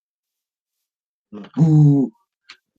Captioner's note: boooo